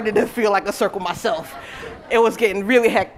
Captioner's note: laughter